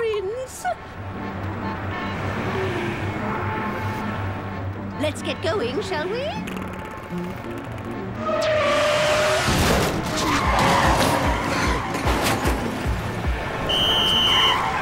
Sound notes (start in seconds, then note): none